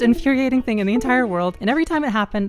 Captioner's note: USB accessory disconnecting